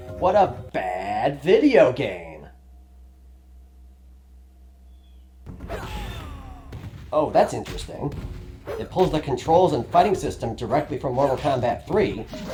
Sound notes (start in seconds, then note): 2.5 crushing silence